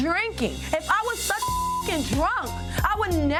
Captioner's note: beep